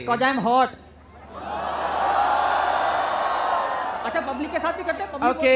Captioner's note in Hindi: चियरिंग